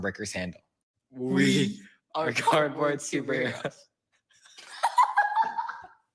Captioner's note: laughs